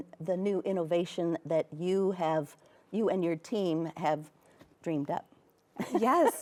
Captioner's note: laughs